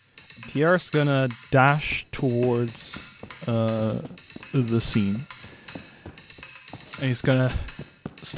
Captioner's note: running sounds